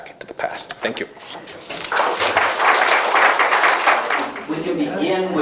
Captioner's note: applause